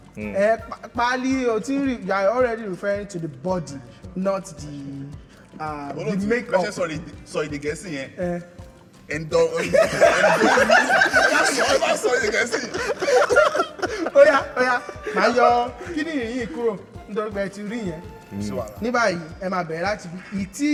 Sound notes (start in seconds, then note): 12.7 everyone laughs